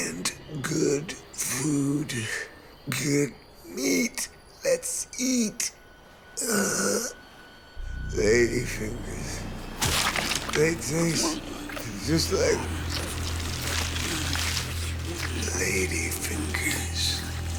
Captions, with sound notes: good food, good meat. Let's eat. Ladyfingers... They taste just like ladyfingers. [Chewing] Ladyfingers...